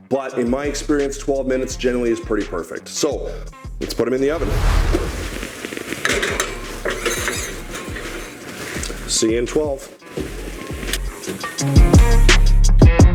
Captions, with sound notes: But in my experience, 12 minutes generally is pretty perfect. So let's put 'em in the oven. (whooshing) (tray clanking) See ya in 12. (upbeat music)